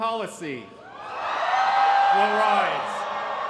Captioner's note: cheering